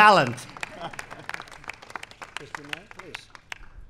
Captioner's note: applause